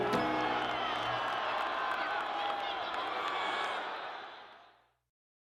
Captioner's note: crowd noise